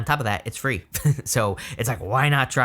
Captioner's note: chuckling